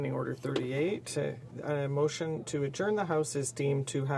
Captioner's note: speaking French